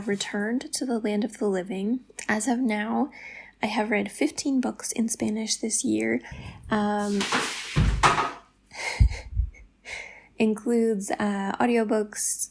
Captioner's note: crashing